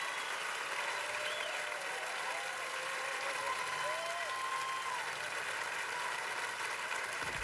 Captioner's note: cheers and applause